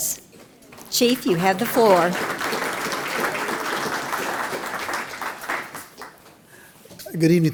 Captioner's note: applause